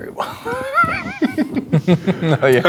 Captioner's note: players laughing